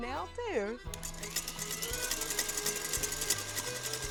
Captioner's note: mixer noises